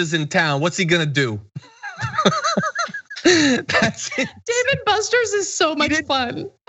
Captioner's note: laugh